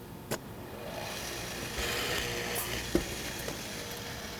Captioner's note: motor whirs again